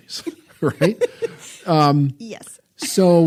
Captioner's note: laughing